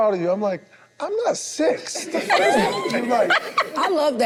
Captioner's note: group laughs